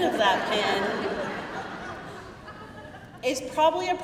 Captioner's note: crowd laughing